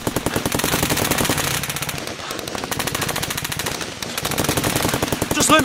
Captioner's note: rapid gun fire